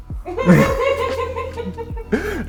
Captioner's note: laughter